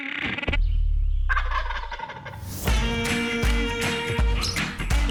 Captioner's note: gobble sound